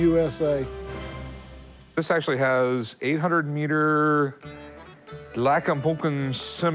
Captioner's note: non-english speech